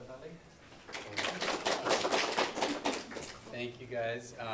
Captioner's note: applause